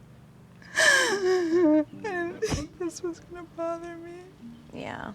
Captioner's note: crying